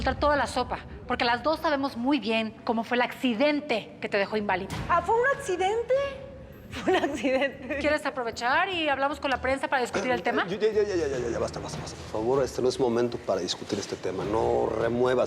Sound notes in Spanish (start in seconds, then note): 6.7 risas